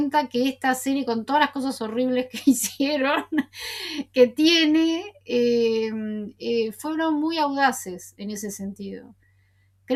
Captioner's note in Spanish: risas